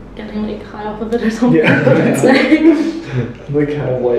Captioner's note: laughter